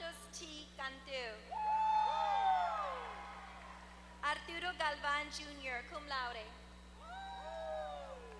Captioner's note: applause